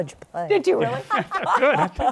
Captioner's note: laughter